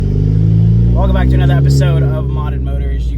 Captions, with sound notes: (car engine revving) - Welcome back to another episode of Modded Motors.